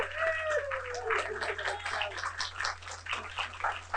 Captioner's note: applause